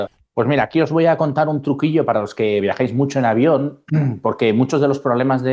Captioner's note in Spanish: carraspeo